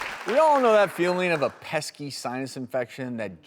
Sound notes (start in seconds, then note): 0.0 audience applauding